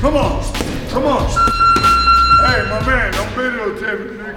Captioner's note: beeping